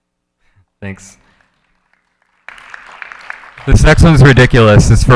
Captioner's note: audience applauding